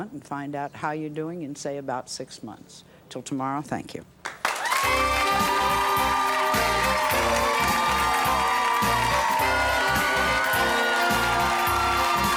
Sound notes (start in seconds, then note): 4.4 cheering; 4.9 smooth jazzy music